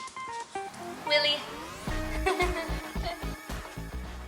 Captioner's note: laughter